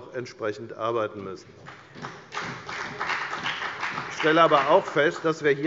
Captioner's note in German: Beifall bei der FDP und der CDU